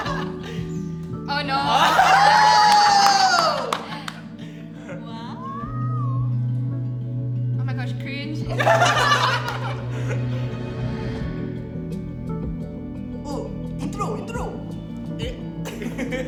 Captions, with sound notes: - Oh no! (everyone cheers) - Wow! - Oh my gosh. Cringe! - Oh! - Intro, intro! - Eh!